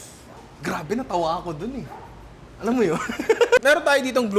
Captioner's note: laughs